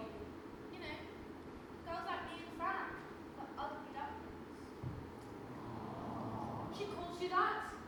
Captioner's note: audience awws